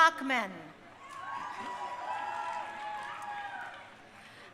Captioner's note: crowd cheering